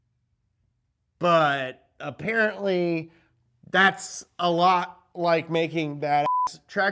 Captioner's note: beep